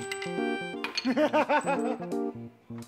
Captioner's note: laughing